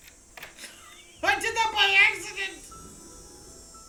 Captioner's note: laughs in shock